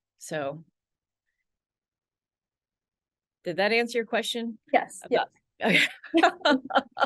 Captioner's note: laughs